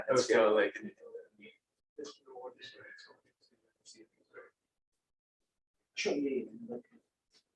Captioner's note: indistinct conversation